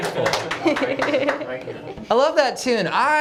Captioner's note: applause